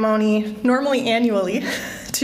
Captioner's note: laughter